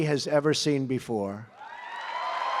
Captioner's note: applause